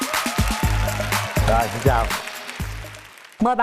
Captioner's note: applause